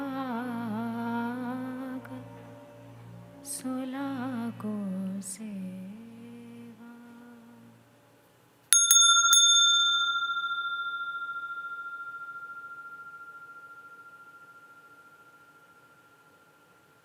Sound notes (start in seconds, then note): 8.7 sound of the bell